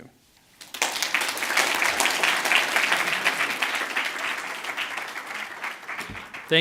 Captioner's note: audience applauds, exits stage